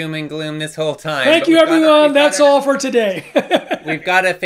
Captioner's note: laughs